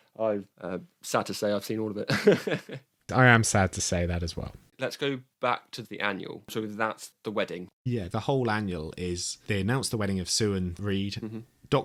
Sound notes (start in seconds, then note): 2.0 laughs